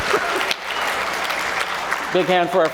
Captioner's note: applause